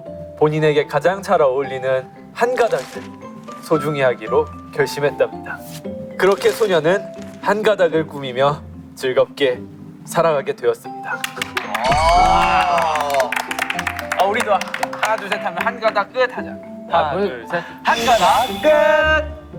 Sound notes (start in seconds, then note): 11.2 applaud